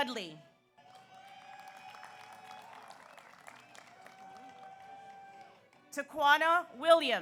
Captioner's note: audience cheers; audience applauds